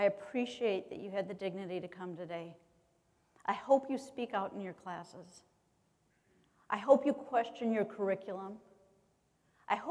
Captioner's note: none